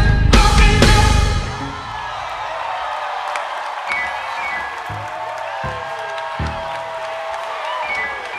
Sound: audience applause

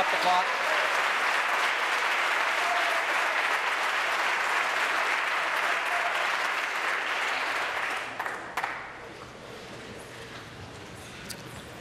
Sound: applause

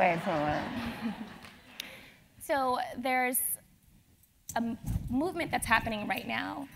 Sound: laugh

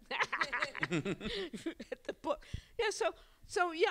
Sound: laughter

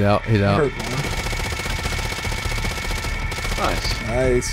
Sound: gunshots

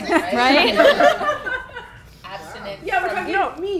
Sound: laughing

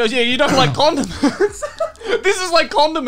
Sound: laughing

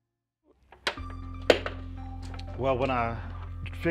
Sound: wood clunking

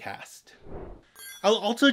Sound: whoosh

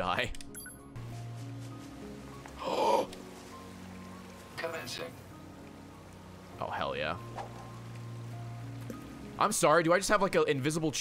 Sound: gasps

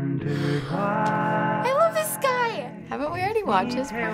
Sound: gasping

